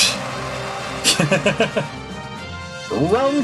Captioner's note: laughs